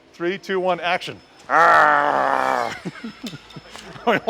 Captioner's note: monster growling; laughing